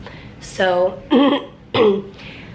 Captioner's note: clears throat